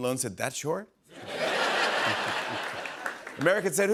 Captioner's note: laughter